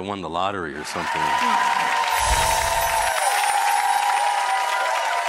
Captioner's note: audience applauds